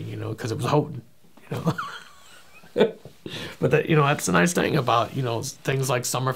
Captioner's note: laughing